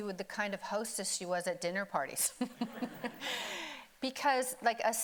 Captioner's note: laughs